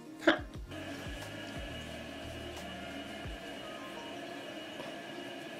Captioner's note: faint sounds of water running through the pipes